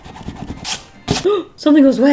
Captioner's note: gasps